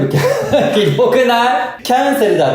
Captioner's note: laughs